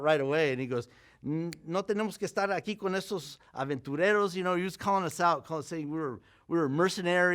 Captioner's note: Spanish language